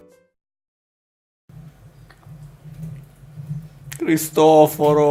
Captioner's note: munching noise